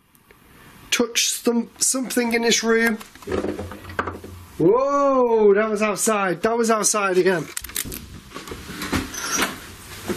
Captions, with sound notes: Touch something in this room? (crackling) Whoa, that was outside. That was outside again.